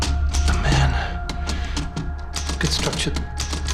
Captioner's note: typewriter clacking